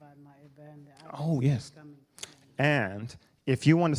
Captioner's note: speaking quietly